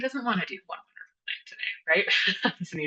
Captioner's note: laughs